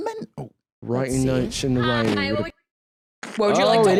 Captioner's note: British accent